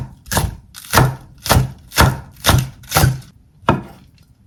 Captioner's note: cutting sound